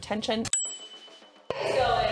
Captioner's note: dinging